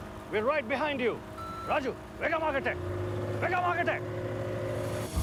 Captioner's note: speaking foreign language; dramatic music